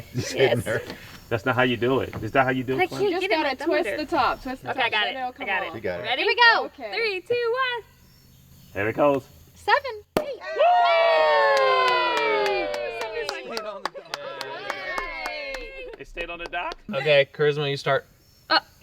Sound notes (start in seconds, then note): 10.4 group cheering; 10.7 cork popping